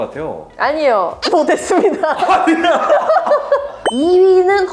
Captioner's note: laughs